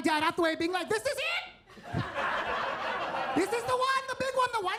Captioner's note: attendees laughing